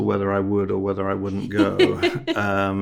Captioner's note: host laughing